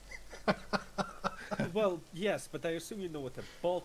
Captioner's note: laughter